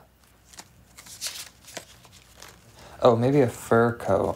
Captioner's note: paper rustling